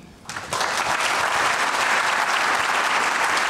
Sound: applause

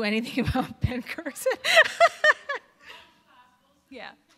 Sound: laughing

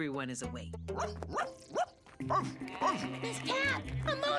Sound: barking

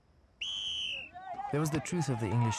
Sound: whistle blowing

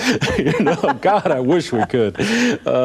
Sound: laughing

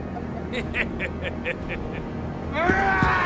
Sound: laughing

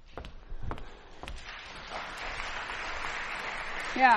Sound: applause

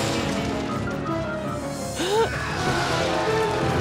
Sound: gasps

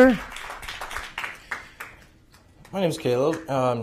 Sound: applause

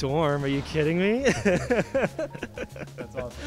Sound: laughs

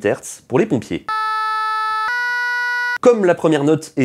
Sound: firefighters Siren

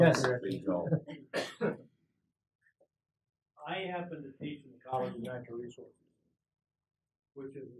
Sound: cough

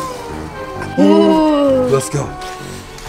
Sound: ghost Sounds

